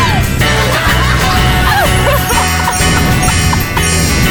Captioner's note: laughs